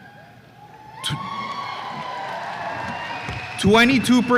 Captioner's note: audience cheers